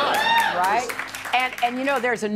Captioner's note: audience applause